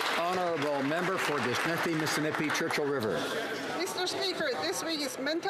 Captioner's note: some Applause